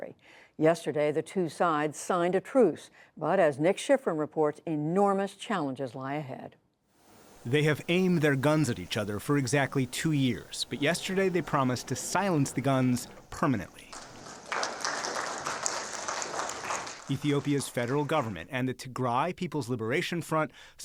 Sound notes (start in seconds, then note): 13.7 applause